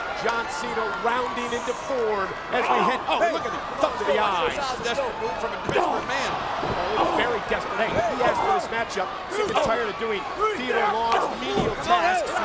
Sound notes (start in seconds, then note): 5.4 people chattering indistinctly